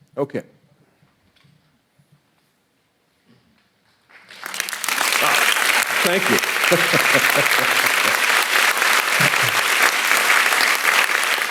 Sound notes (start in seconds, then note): 4.1 audience applauding; 6.2 laughing